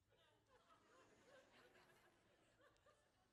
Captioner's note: laughter